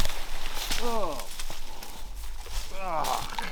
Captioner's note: brush rustling; groans